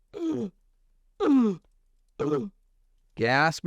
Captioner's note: gasp for breath